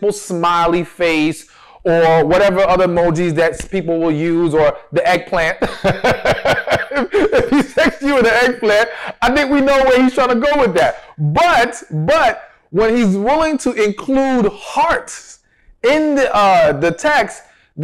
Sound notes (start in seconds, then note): 5.6 laughs